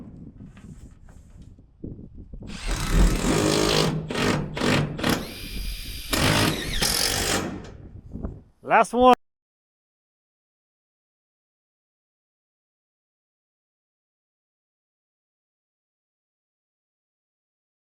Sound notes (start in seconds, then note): 2.4 drills drilling